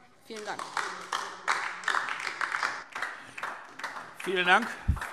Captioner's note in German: Beifall DIE LINKE und vereinzelt SPD